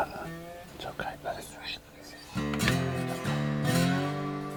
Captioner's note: whispering